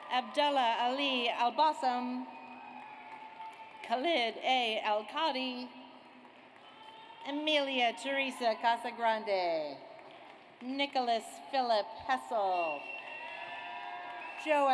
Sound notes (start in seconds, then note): 0.0 audience applauds; 2.4 audience applauds; 6.2 audience applauds; 9.9 audience applauds; 12.4 audience cheers